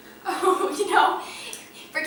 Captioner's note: laughing